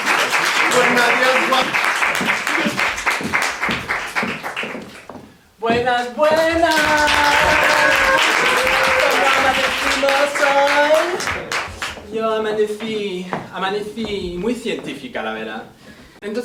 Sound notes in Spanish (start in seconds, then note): 0.0 Risas y aplauso; 6.6 Aplauso